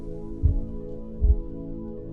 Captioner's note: slow heart beat